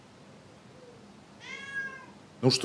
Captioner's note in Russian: Кошачье мяуканье